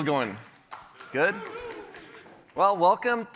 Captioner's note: cheers